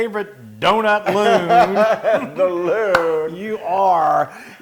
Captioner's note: laugh